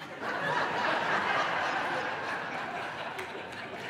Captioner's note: audience laughing